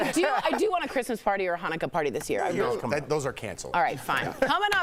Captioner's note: laughter